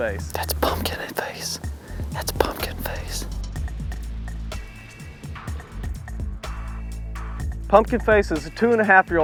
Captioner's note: whispering